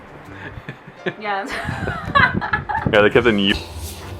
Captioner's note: laughing